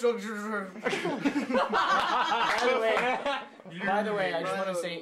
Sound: laughter

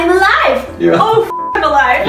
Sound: laughs

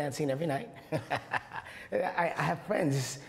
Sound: laughs

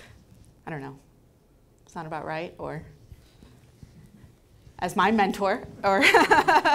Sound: laughing

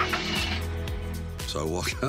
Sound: car engine starting

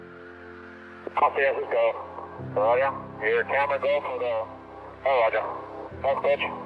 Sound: radio chatter continues

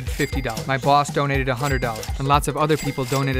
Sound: cash register bell rings

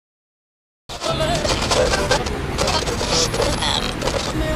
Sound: estática en la radio

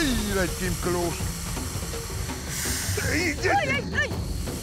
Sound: hissing

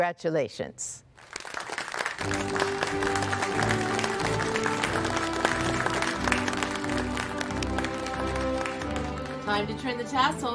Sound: applause

